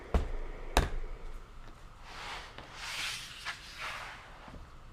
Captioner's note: hands thudding